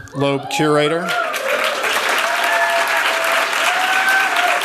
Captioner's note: cheers, applause